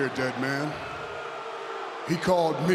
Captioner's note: audience jeers